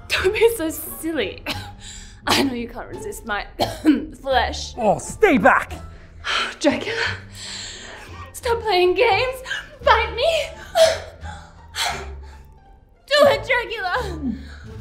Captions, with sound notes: Don't be so silly (coughs) I know you can't resist my flesh (coughs) Oh, stay back! Dracula .... Stop playing games. Bite me. Do it, Dracula!